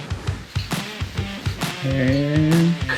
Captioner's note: belts rattles